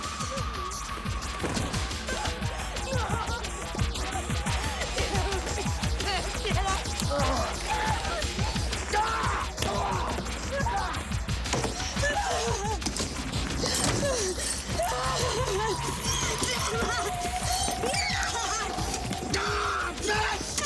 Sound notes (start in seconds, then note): 7.6 grunting; 7.6 screaming; 14.0 Jodie sobbing; 19.3 Graham yells